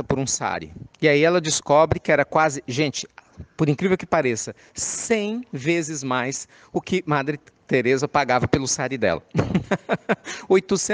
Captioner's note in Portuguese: risadas